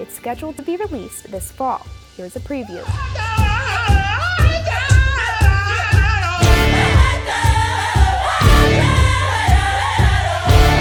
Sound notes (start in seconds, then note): 3.9 chanting